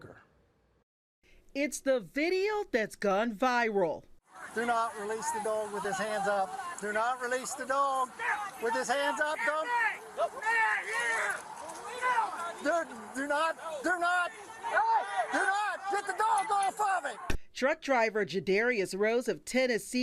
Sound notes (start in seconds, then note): 16.3 yelling